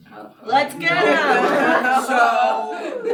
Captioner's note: laughter